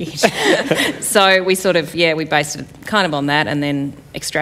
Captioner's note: laughter